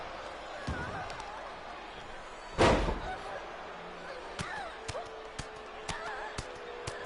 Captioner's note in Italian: Applauso